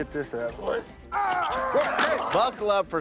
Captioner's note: screaming